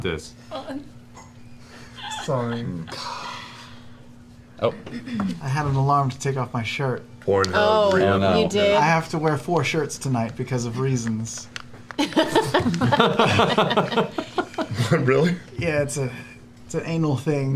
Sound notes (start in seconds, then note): 12.0 laughter